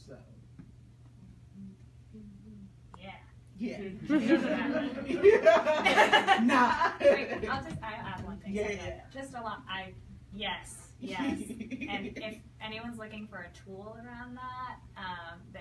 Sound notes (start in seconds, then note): 3.8 people laugh